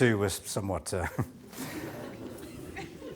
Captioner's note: nervous audience laughter